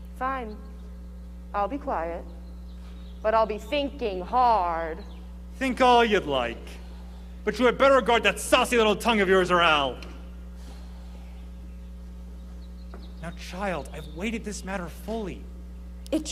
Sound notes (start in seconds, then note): none